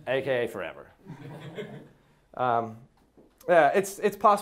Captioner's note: class laughing